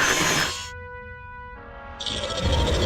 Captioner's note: metal grinding; growls